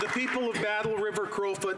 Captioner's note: applause